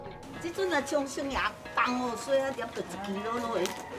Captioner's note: speaks in Chinese